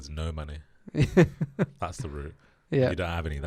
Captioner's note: laughs